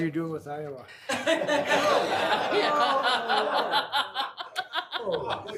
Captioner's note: sighs and playfully lowers head